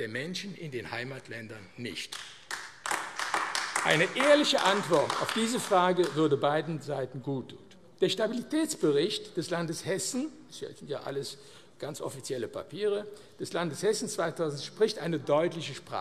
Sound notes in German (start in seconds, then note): 2.0 Beifall AfD